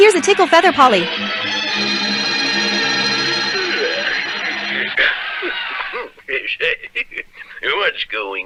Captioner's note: crowd Roars